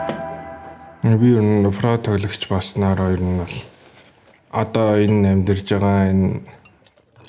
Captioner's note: in Mongolian